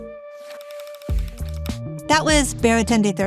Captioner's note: bright music; reel clicking